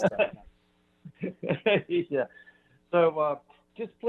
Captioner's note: laughs